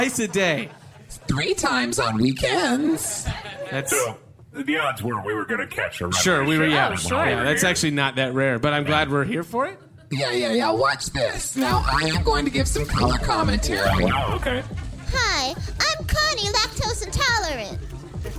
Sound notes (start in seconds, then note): 11.6 SFX: Camera shutters, club music starts back up